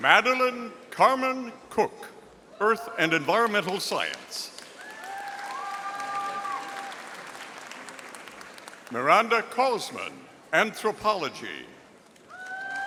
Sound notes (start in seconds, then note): 4.5 audience applauding; 12.2 audience applauding